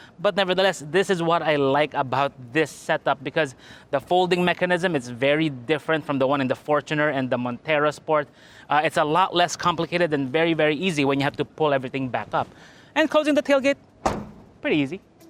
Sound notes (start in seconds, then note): 14.0 thud